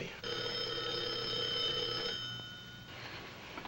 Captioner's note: telephone rings